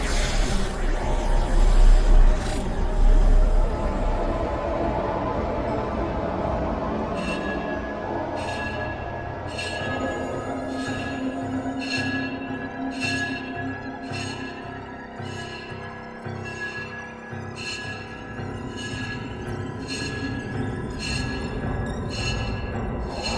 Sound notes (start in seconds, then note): 0.3 disorientating noises; 3.5 ghostly train horn; 7.1 crossing gate bells going off; 18.2 tracks rumbling